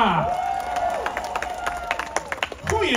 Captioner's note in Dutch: Applaus